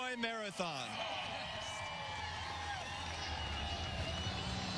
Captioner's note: applause and cheering